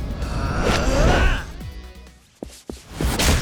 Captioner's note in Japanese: うめき声